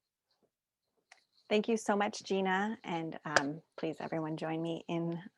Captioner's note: claps once